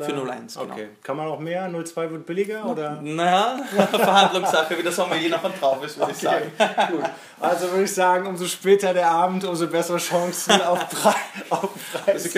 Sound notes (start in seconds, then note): 3.6 laughs